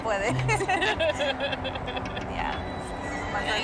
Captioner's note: Ríe; laughs